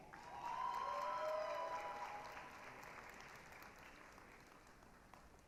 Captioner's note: applause, cheering